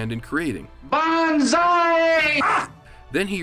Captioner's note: shouts